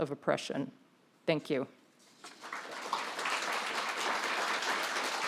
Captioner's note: audience applauds